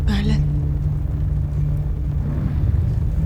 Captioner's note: fire crackling